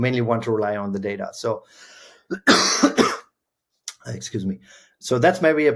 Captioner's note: coughs